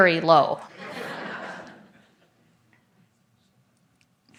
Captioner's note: audience laughs